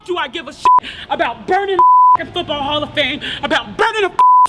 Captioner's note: beep; beep